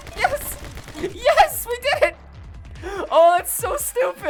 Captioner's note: laughs